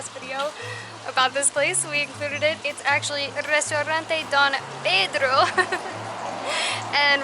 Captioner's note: laughter